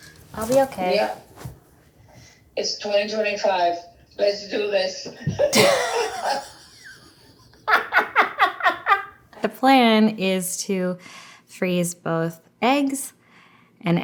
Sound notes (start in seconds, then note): 5.2 laughing